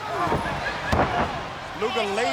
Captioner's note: body thudding